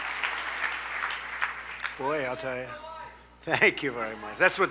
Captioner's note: laughs